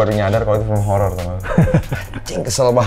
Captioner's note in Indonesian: ketawa